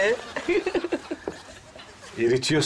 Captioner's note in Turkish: Gülme sesi